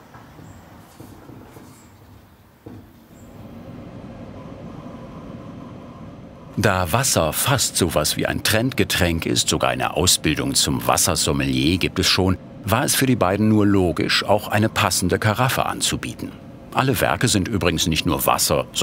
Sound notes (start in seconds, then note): none